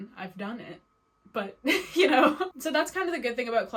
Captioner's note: laughs